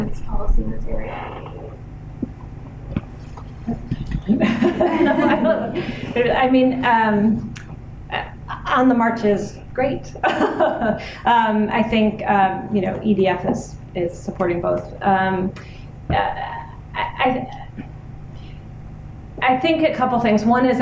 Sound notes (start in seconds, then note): 4.0 laughter; 10.1 laughs